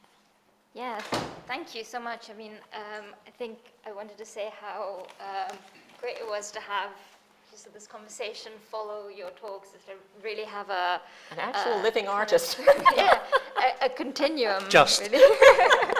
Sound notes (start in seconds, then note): 12.5 laughs